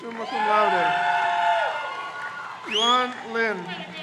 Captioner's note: crowd cheers